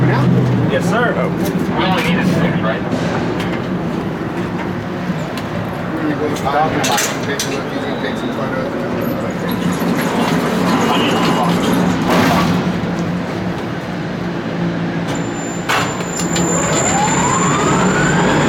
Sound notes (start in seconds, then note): 3.2 two-way radio chatter; 14.2 sound of man lift whirring and rumbling